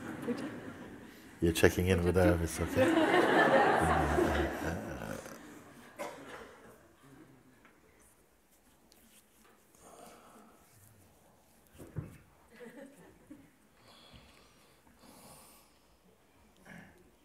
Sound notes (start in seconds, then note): 4.5 smiech; 6.7 ticho